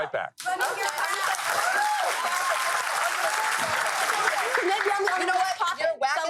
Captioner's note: audience applauds; girls arguing